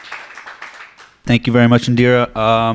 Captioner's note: applause